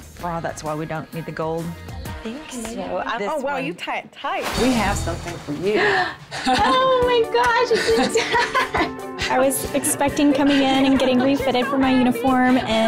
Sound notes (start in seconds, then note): 5.8 gasp; 7.6 laughter